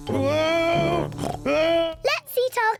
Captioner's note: snorts